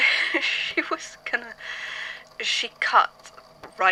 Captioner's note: laughing raggedly